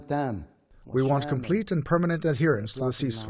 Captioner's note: through translator